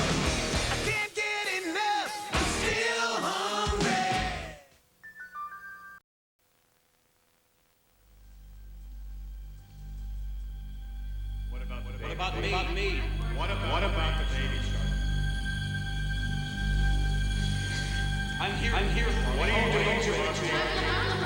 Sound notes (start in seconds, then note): 13.8 echoing